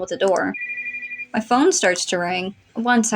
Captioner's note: ringing